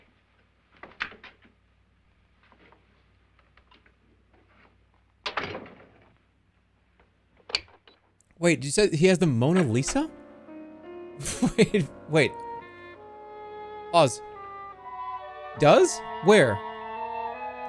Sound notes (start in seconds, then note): 11.2 laughing